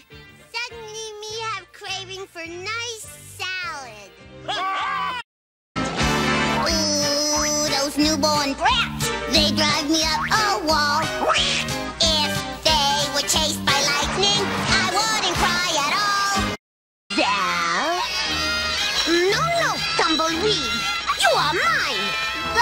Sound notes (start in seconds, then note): 11.1 quack; 17.1 crying